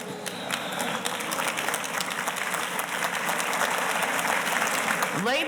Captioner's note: audience applauding